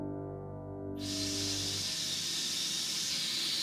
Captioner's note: exhales